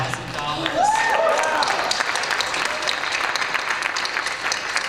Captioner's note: applause and cheers